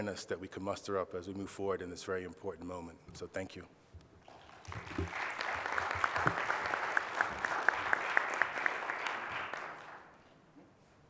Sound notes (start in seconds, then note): 4.2 applause